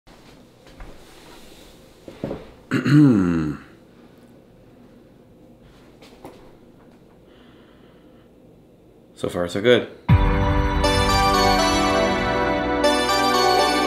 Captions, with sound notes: (clears throat) So far so good. (upbeat electronic music)